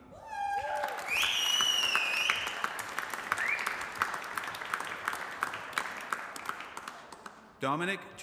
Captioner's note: applause